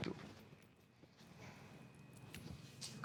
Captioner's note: non-english speech